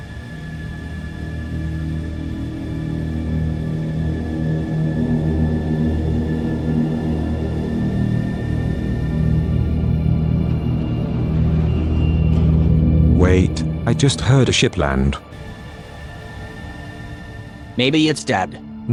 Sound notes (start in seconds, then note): 5.7 ship landing sounds